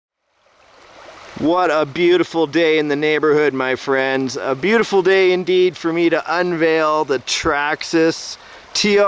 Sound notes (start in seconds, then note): 0.4 water raging